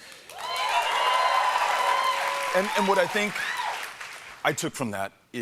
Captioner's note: applause